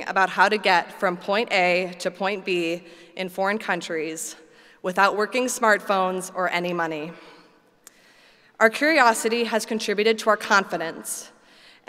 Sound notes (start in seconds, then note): none